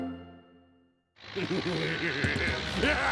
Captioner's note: laughs